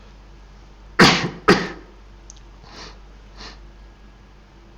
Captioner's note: Eckhart coughs